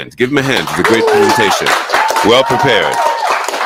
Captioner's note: audience clapping; audience cheering